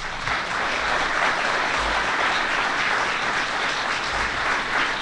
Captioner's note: applause